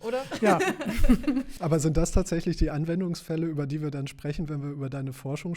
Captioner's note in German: gelächter